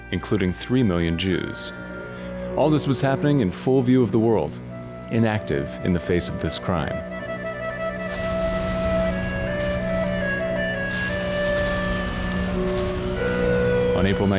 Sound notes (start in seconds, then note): 7.7 explosions booming; 8.8 eerie music